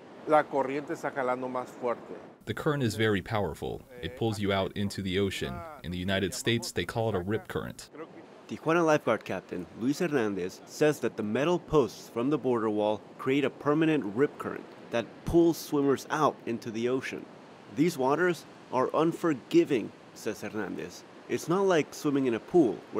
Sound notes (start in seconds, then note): 1.8 through translator; 8.9 voice-over